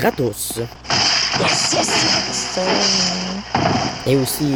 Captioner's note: furious humming